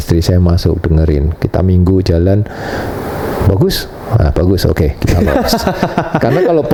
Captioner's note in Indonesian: tertawa